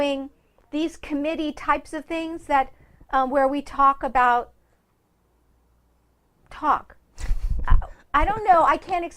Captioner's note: laughs